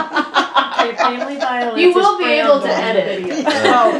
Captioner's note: laughter